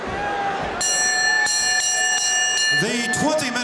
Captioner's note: bell ringing